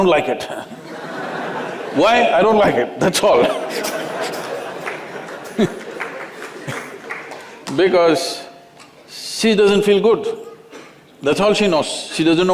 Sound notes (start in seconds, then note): 0.7 laughter; 3.3 laughter